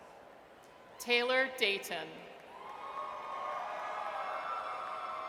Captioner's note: audience cheers